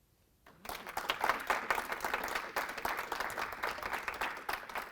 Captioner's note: audience clapping